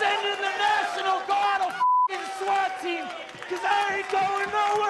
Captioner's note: beep